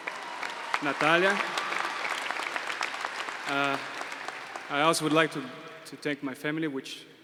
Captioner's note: applause